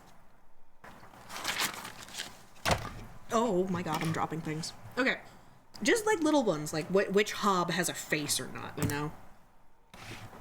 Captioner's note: paper flipping; something falling